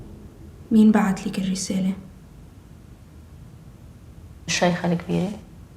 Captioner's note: light intriguing music; conversing in foreign language